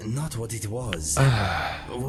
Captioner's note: sigh